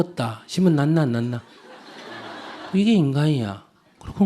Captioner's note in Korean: 청중 웃음